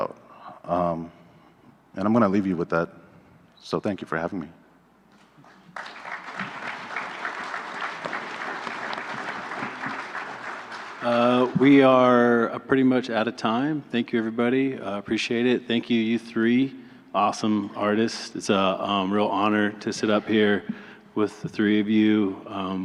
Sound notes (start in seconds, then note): 8.0 applause